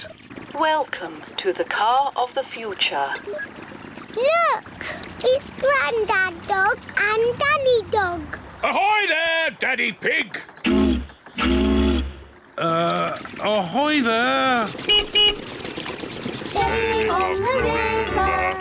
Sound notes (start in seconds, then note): 11.3 toots horn; 14.6 beeps horn